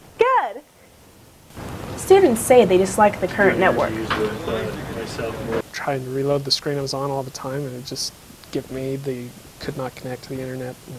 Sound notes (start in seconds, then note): 4.0 voices in background